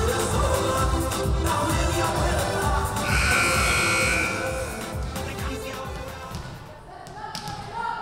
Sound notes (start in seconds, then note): 3.0 buzzer buzzing